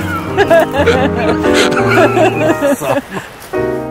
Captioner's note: laughing